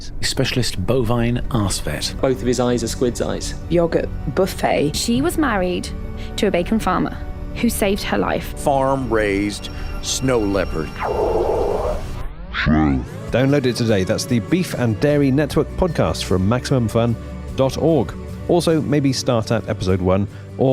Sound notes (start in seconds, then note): 13.2 static, distortion